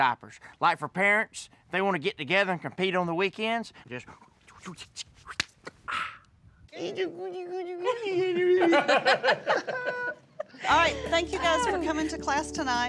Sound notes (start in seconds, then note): 4.1 imitating a diaper change; 5.3 clapping; 6.7 speaking baby talk; 7.8 everyone laughing